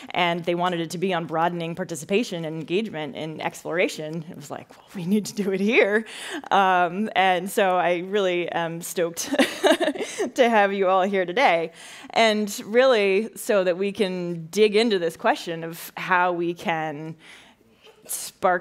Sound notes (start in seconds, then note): 10.0 laughs